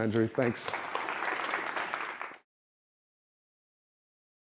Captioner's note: applause